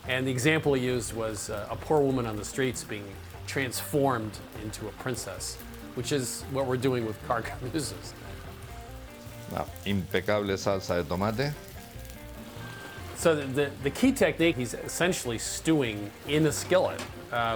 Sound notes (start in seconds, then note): 9.0 speaking Spanish